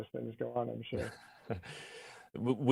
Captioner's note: chuckles